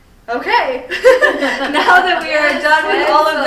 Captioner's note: all laughing